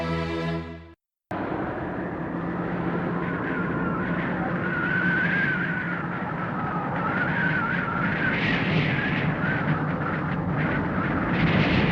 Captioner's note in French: Bruit de vent